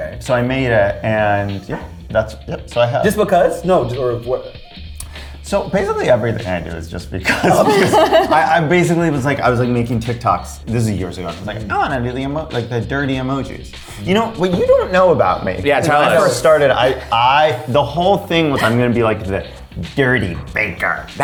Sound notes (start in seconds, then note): 7.2 laughs